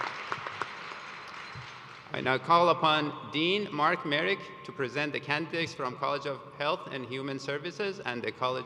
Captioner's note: applause